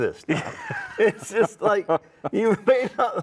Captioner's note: laughs